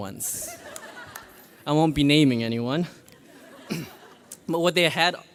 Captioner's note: graduates laugh